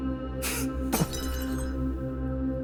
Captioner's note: glass shatters